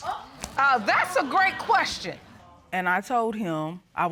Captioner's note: audience murmuring